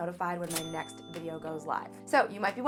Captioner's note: button ringing